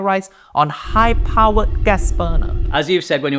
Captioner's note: gas escaping